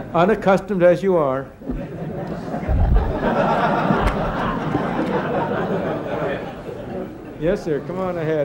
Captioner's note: laughter